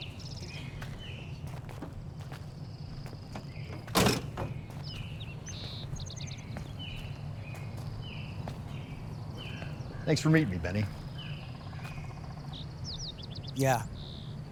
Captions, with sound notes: (birds chirping) - Thanks for meeting me, Benny. - Yeah.